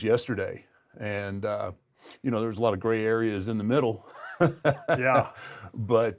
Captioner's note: laugh